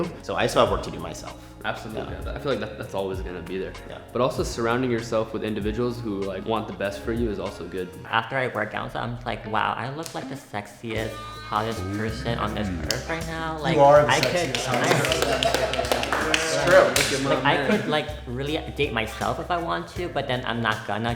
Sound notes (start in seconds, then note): 15.4 everyone agreeing and applauding